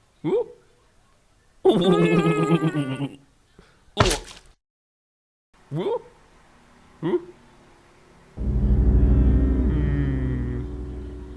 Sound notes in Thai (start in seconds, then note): 1.6 หัวเราะ